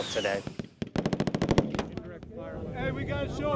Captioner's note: gunshots